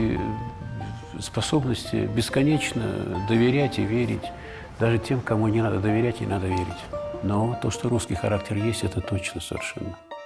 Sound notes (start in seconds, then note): 1.2 Sokurov, in Russian